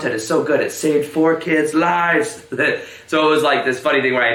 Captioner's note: chuckles